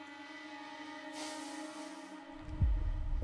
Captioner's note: exhales deeply; somber music playing